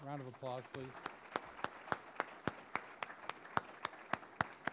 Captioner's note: audience applauding